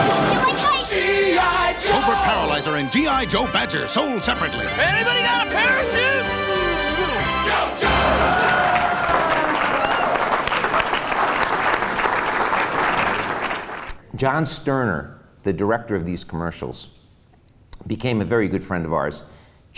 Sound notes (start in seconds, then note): 0.0 smash!; 7.8 applause and cheering